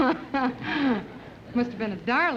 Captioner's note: laughs